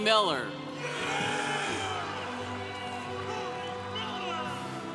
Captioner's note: congregation cheering